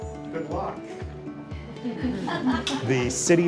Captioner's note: group laughs